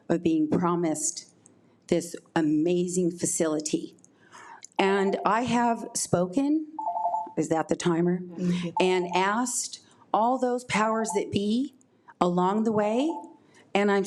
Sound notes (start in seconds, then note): 6.8 timer beeps